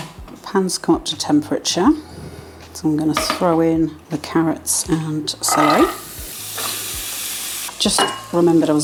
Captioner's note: sizzle